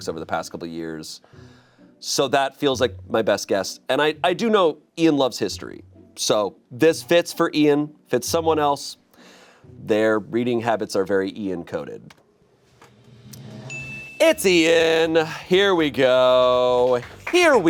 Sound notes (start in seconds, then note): 13.6 chime dings; 15.7 audience members clapping